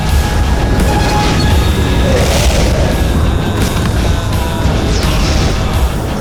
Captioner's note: rumbling